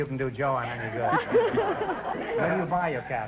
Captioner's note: laughs